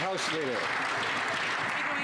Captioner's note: some Applause